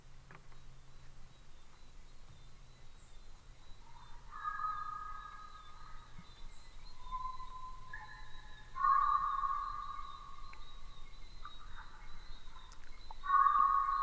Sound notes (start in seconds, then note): 0.1 chirping; 3.6 animals echoing